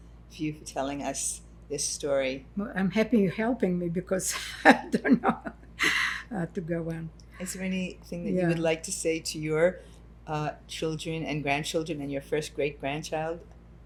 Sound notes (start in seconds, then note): 4.6 laughing